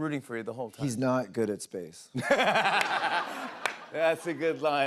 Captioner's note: laughter